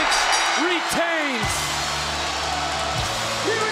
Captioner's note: bell ringing